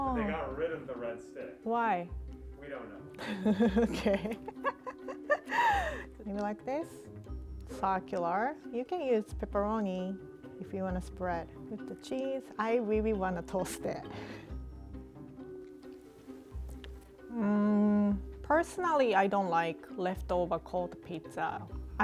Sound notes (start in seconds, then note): 3.2 laughing; 14.7 mischievous music; 16.6 chewing